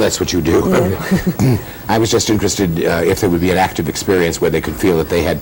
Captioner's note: laughter